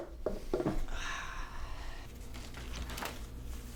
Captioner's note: sighs